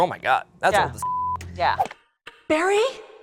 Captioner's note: beep